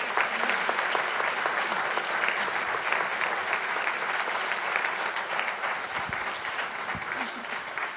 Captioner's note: applause